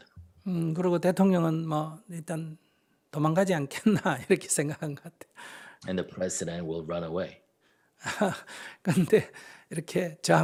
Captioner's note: laughter